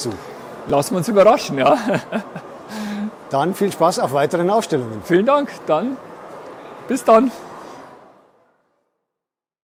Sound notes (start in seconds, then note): 1.7 laughs